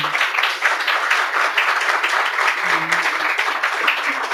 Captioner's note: applause